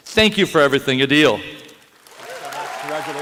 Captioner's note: applause